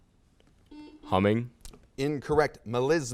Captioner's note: buzzer sounds